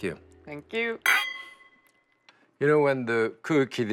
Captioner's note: glasses clink